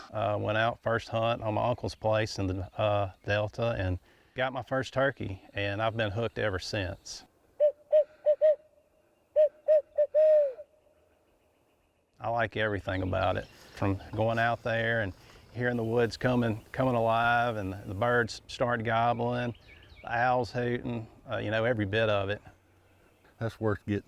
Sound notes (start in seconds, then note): 9.4 locator call hooting